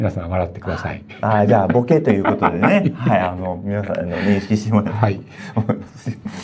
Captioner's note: laughs